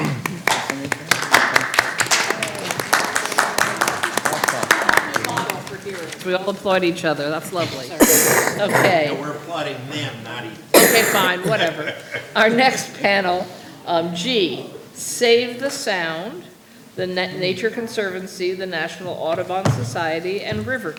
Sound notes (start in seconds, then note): 2.0 applause